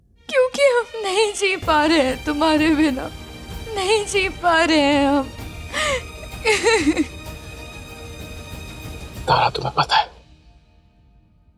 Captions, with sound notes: Because I can't live without you. I can't! [sobbing] Tara, you know,